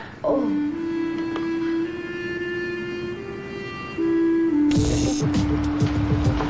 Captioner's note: sighs